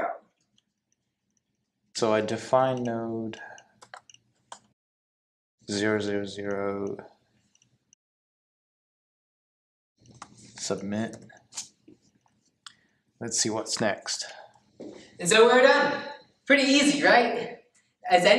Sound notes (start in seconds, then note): 6.5 computer mouse clicking